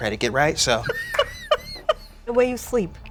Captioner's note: laughing